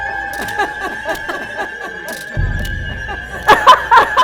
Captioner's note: laughing